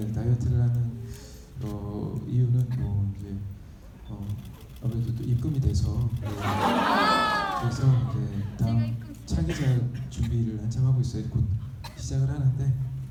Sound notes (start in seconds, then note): 0.0 audience member speaking in foreign language; 0.3 speaking in foreign language; 6.3 laughing; 8.3 speaking in foreign language